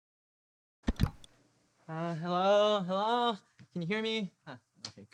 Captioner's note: click